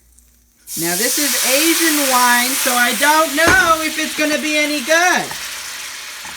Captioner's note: yelling